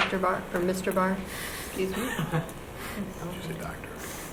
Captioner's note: laughs